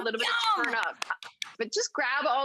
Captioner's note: clapping